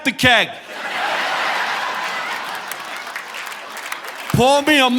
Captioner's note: audience laughing